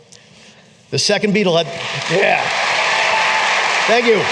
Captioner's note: applause